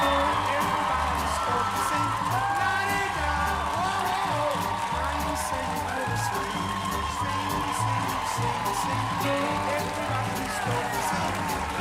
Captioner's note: cheers and applause